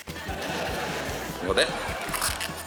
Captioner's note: laughter